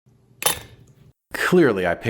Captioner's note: clink!